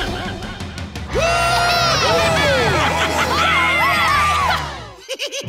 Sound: cheering; giggling

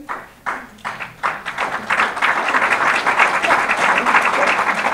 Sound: audience applause

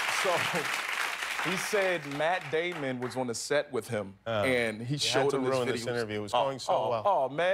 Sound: applause

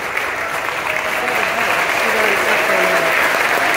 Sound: applause intensifies

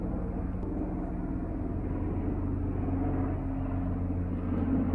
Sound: helicopter passing by again

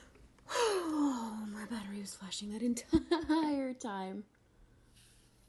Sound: relieved exhale

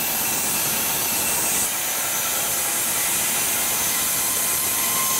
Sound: whirring continues

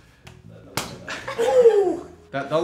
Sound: smack

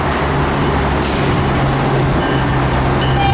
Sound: bells ringing

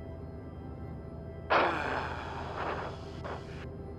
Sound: sighs

